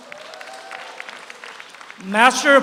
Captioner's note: audience applauds